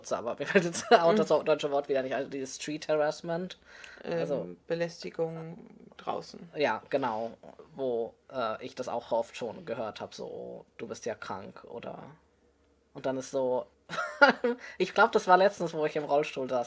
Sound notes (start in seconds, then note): 13.0 laughs